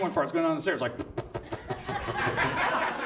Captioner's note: blows air; audience laughs